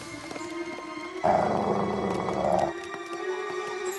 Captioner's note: growling